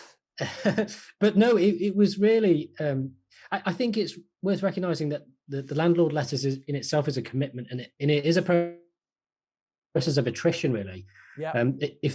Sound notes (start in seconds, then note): 8.6 call stuttering